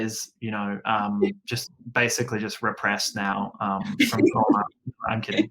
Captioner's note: laughs